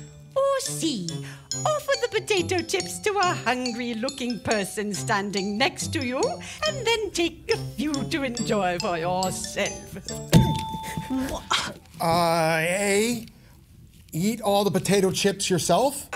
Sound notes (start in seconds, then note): 10.2 buzzer Ding